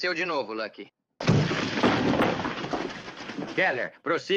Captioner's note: blow, rattling